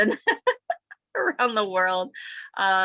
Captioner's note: woman laughs